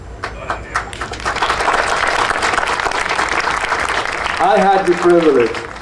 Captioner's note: audience applauding